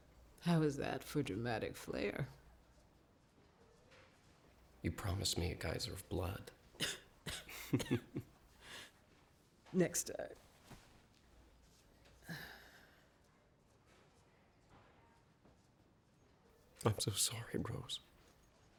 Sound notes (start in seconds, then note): 6.7 coughs; 7.4 chuckles